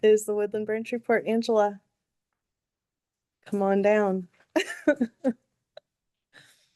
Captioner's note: laughs